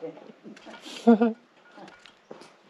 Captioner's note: laugh